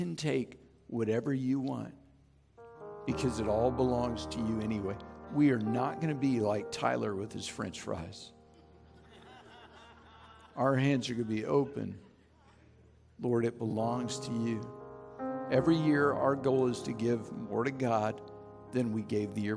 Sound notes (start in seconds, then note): 8.5 chuckling; 13.3 background piano music